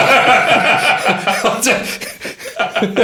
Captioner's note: laughing